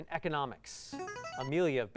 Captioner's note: buzzer